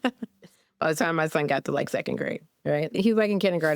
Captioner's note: laughs